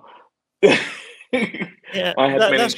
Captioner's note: laughs